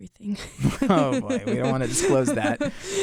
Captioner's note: both laugh